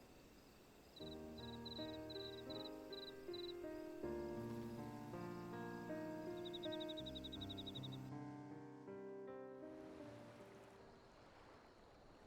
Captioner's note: birds chirping